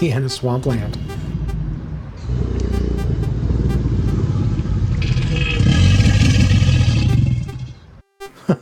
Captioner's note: alligator bellowing